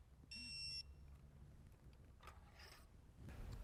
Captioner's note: tool beeps